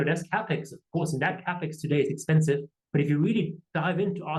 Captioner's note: none